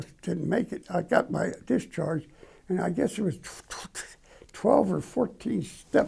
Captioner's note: stutters